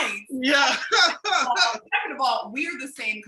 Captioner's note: laughing